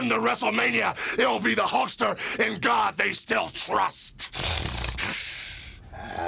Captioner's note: snorts